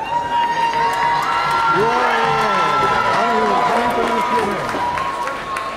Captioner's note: audience cheering and applauding